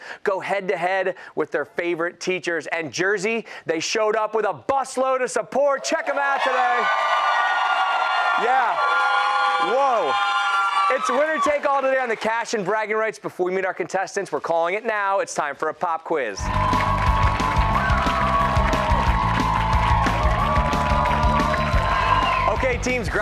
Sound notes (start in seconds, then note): 5.7 cheers and applause